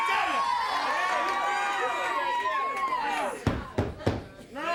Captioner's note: crowd cheering